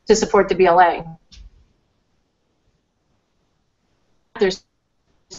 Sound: no audio

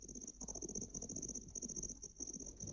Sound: none

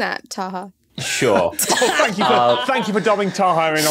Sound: laugh

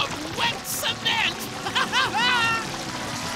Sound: laughing

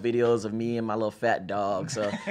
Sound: all laugh

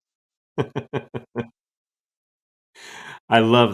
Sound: laughs

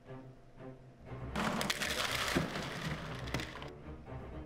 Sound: plastic clattering

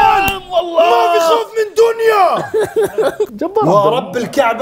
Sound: in Pakistani accent

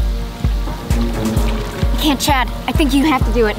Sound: water gurgling

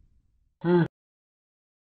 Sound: laugh

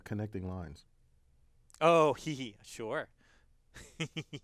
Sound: laugh

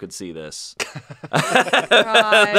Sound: laughs

